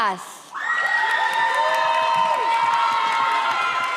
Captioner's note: audience cheers